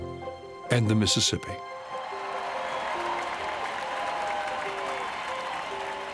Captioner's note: crowd cheering